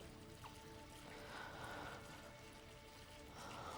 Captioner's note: breathing heavily